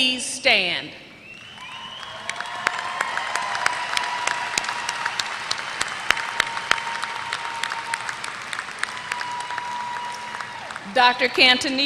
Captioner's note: applause